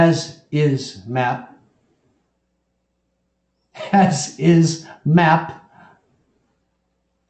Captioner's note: laugh